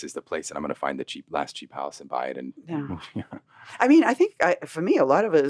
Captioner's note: laughs